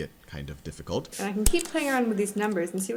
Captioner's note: voiceover